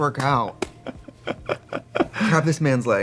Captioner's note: Katya laughing; laughing